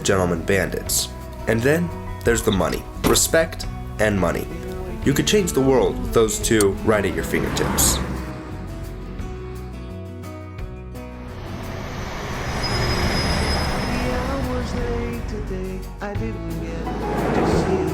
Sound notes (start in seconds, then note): 11.2 engine roaring; 13.6 bright music